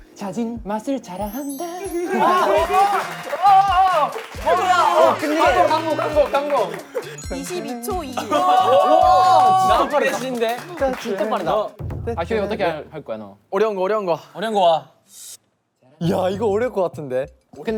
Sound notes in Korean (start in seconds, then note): 2.2 박수갈채